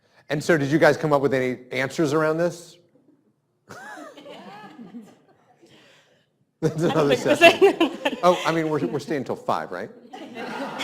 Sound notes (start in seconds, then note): 6.6 faintly speaking